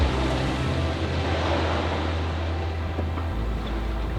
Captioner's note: waves crashing